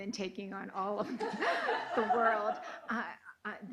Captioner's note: laughing